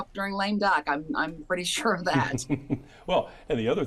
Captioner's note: laughing